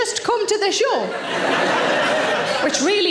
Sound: audience laughing

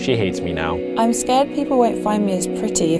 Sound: voiceover

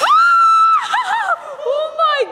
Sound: screaming

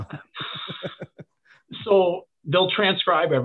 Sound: laughing

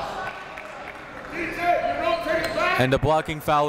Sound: coaches yelling

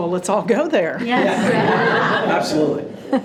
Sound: group laughing

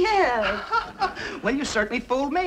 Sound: man chuckles

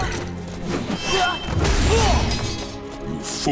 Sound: grunting

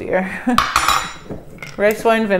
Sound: clanking

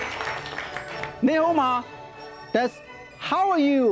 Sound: speaking foreign language

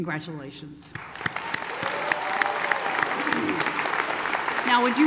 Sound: applause

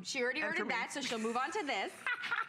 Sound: laughter

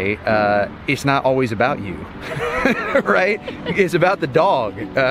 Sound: laughs

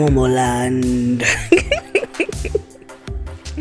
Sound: laughs

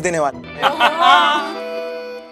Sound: laughing

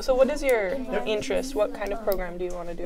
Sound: chatter

